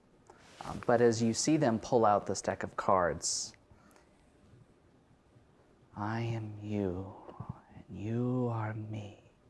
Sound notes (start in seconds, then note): 5.9 chanting